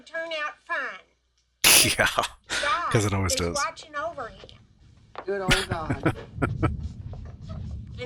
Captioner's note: chuckling